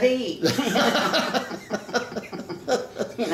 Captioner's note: laughing